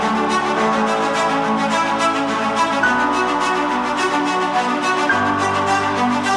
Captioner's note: cheers and applause